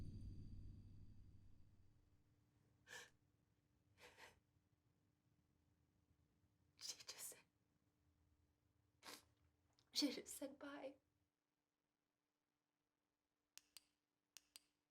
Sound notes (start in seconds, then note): 3.3 person crying